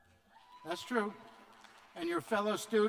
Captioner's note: cheers